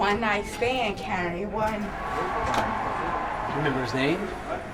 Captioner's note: audience cheering